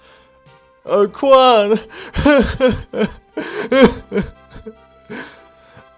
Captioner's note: sob